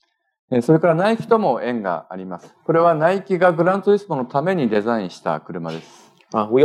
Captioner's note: speaking japanese